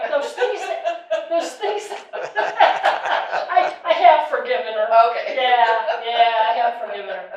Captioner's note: audience comment and laughter